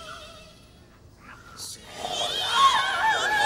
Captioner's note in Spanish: Gruñido zom bie